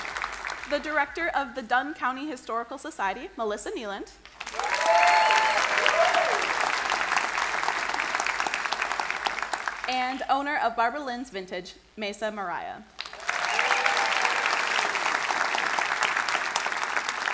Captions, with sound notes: the Director of the Dunn County Historical Society, Melissa Kneeland; (crowd cheering and applauding) and owner of Barbalynn's Vintage, Maysa Maraia. (crowd applauding)